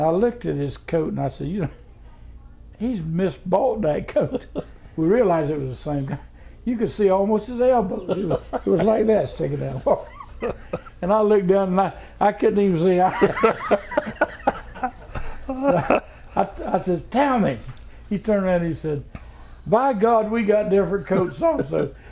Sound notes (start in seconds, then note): 13.0 laughter